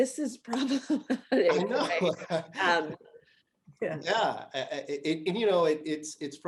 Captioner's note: laughter